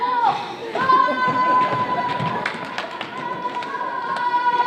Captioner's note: yelling